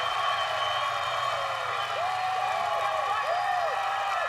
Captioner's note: cheers and applause